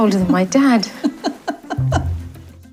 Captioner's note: laughs